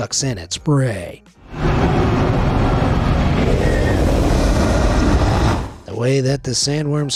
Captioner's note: Worm whooshes